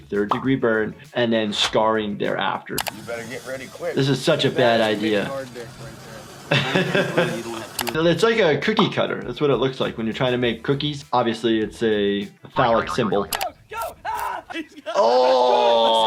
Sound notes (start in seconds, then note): 6.6 doctor laughs; 14.9 Bam screams in pain